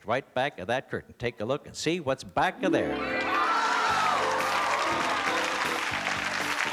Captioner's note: cheering, applause